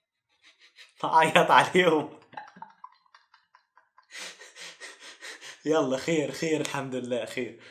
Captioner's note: joking hahahaha